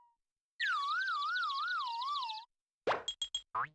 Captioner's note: birds chirping